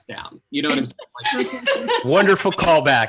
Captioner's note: laughing